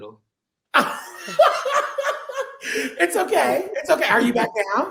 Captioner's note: laughing